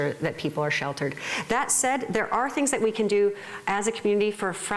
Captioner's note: none